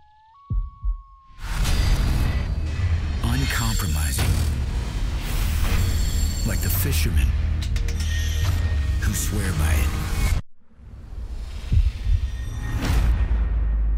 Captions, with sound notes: (animal howling) - [Voiceover] Uncompromising. Like the fishermen who swear by it.